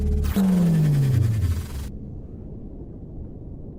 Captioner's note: energy pulsing